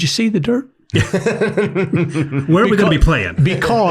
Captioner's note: everyone laughs